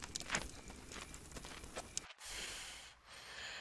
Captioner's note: steps fading away